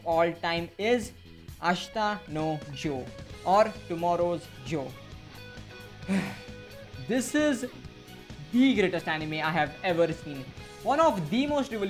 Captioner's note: sigh